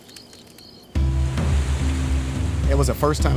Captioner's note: fire crackling; water rushing